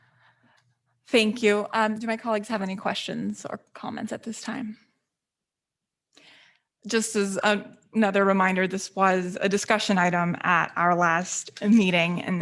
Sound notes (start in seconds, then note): none